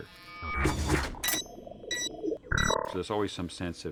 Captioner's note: beeping